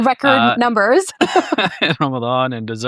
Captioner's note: laughs